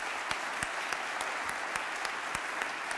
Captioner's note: applause